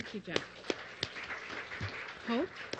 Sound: applause

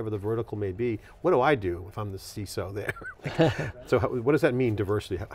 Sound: chuckles

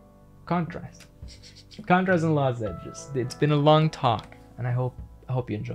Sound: chuckles

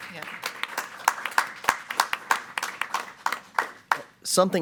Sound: audience clapping

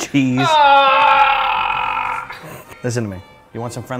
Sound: groans

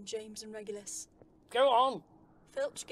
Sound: loud receding footsteps

